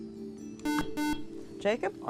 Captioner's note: buzzer